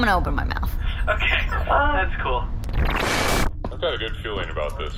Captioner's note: laughing